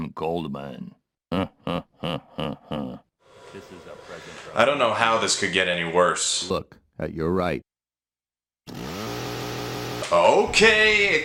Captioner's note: mimic laughter